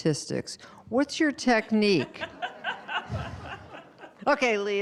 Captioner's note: all laughing